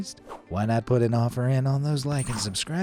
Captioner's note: cartoon swoosh